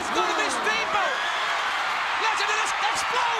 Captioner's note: crowd cheering